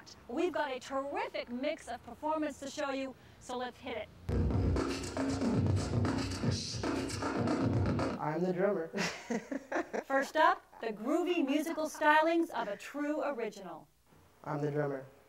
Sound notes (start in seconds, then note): 4.3 beatboxing; 8.9 laughs